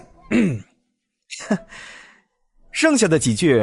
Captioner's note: cough cough